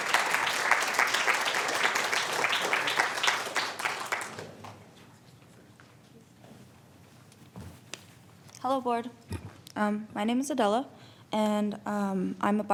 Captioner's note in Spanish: Aplausos